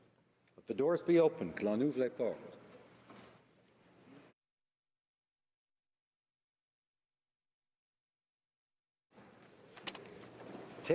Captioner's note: speaking french